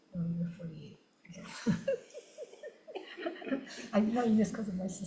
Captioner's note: laughs